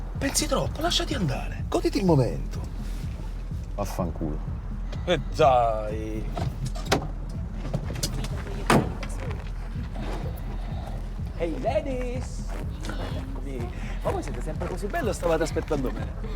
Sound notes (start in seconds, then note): 6.2 car door opens; 8.7 car door closes